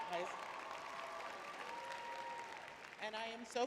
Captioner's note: cheering; applauding